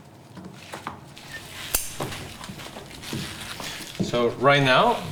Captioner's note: scissor snip